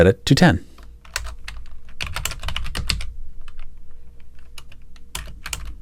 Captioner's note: keyboard clacking